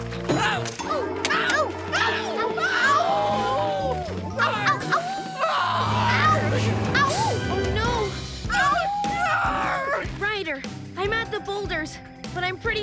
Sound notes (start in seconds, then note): 0.1 screaming; 3.8 screaming and howling; 8.4 screaming and howling